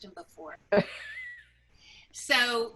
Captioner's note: laughs